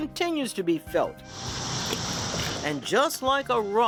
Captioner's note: waves crashing; water splashing